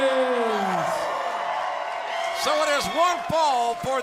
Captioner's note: crowd cheering